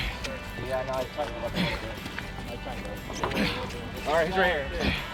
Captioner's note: crew chatting